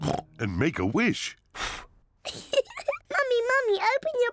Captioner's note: blows; giggles